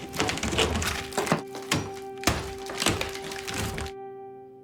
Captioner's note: hammer thudding